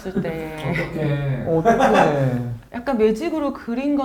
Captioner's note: sighs from everywhere